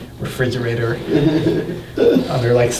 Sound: laughing

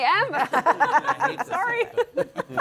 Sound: all laughing

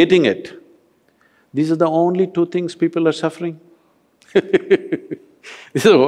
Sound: laughs

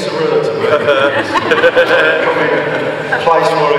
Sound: audience laughs

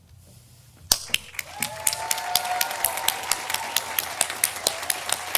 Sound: audience applauding

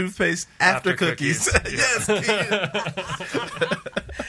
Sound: laughs

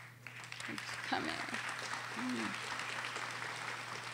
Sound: audience applauding

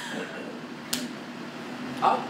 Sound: slap

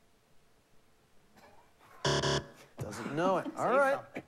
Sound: buzzer

